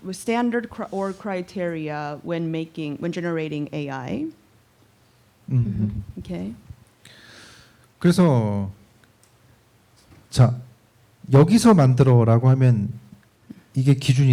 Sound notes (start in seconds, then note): 7.8 speaking korean